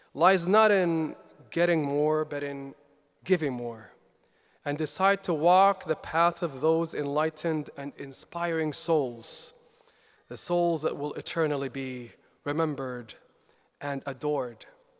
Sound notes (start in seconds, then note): none